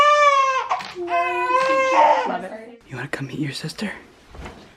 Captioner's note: crying, camera flashing